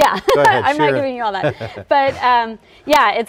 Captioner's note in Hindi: दोनों हंसी